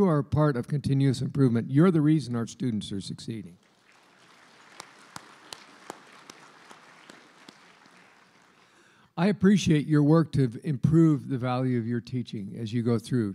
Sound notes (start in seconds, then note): 3.6 applause